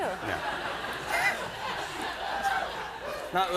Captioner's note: laughter